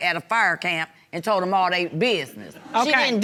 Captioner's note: audience laugh